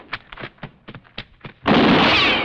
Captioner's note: gunshot